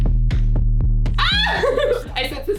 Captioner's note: cackle